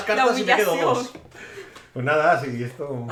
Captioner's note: laughs